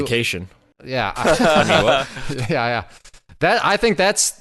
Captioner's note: laughing